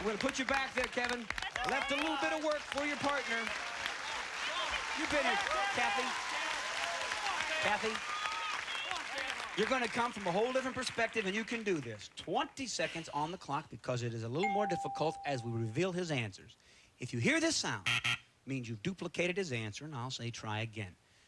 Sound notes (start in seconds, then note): 17.8 buzzer